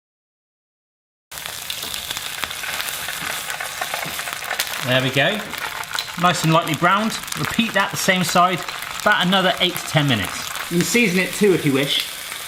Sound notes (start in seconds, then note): 1.3 pan sizzles; 12.2 pan sizzles